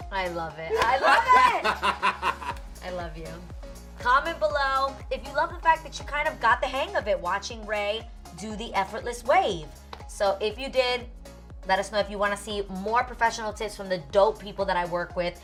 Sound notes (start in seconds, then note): 0.7 laughing